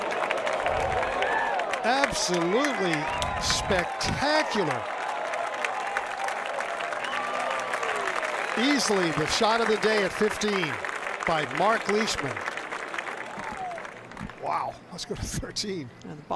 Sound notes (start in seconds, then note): 10.9 cheers and applause